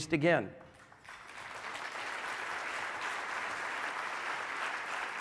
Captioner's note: audience clapping